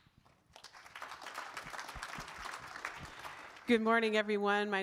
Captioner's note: audience claps